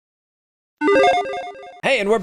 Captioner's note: logo beeps